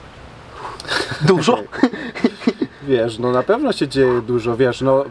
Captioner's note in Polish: śmiech